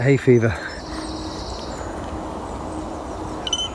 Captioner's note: birds chirping; beeping